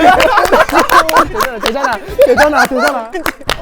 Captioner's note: laughing hysterically